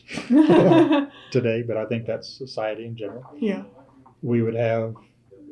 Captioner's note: laughter